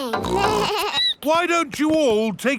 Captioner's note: snorts; bleats